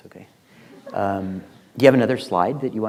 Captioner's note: class laughs